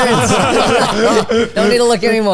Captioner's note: all laughing